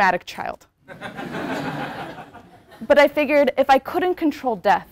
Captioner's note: laugh